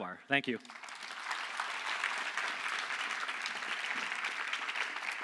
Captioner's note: audience applauding